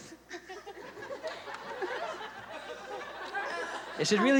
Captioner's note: laughter